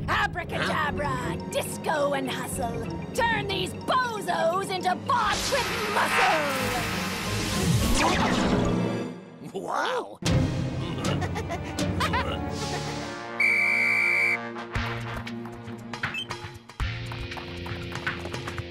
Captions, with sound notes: Abracadabra, disco and hustle! Turn these bozos into bots with muscle! - Wow! - Ooh! (both laugh maniacally) (whistle chirps) (upbeat music)